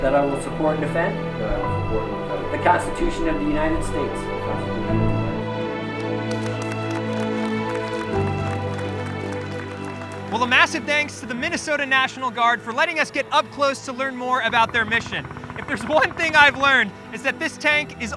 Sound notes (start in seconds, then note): 4.5 dramatic music continues; 5.2 people applaud; 6.1 dramatic music continues